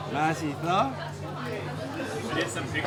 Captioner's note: speaks Korean